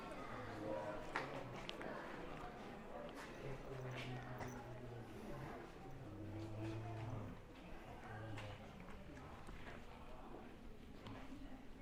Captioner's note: background chatter